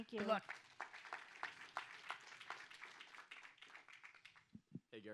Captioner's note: audience applauds